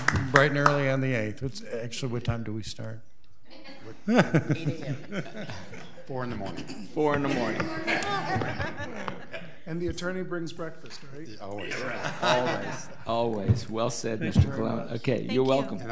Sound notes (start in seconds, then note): 3.8 laughs; 7.2 woman laughs